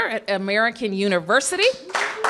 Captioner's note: applause